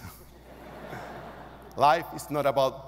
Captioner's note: audience laughing